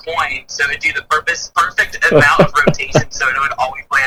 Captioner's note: chuckles